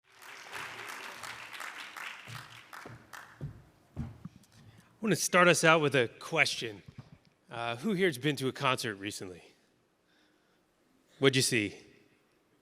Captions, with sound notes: (audience applauding) - I wanna start us out with a question, who here has been to a concert recently? What'd you see?